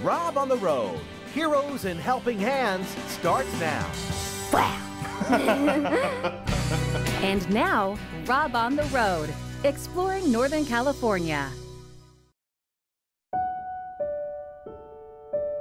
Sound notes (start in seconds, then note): 5.0 laughter